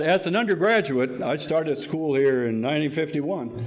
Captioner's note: audience laughing